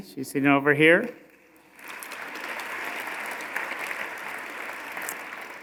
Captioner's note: audience applauding